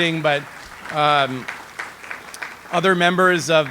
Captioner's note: audience applauds